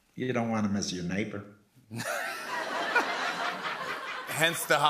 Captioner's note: laughter